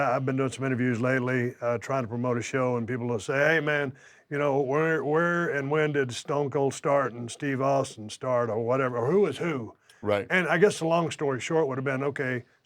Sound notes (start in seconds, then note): none